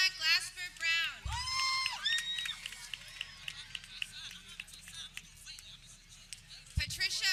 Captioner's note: people cheering